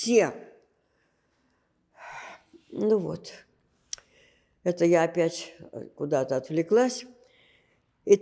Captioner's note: gasping